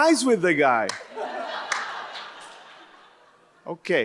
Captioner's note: audience laughs